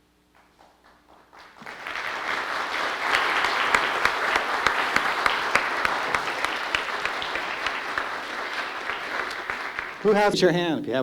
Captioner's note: applause